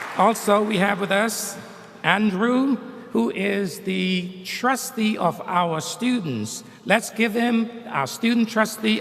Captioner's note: applause